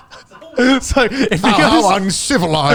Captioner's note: laughing